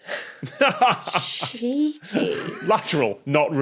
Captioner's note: laughs